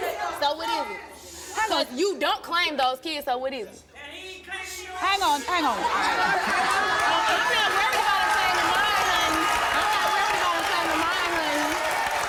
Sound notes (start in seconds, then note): 4.0 laughter; 4.0 shouts from audience; 12.0 applause and shouts